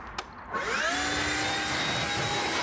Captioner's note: whirring noise